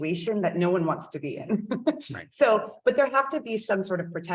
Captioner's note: chuckles